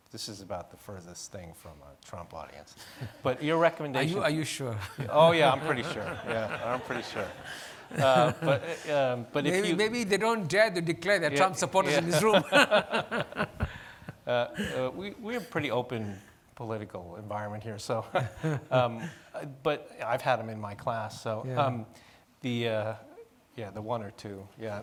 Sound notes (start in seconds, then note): 3.9 laughing; 11.3 laughing